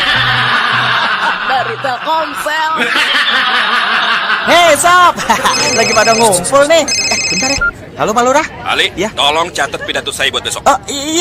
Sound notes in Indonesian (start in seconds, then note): 3.1 tertawa